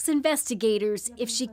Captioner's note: speaking alternate language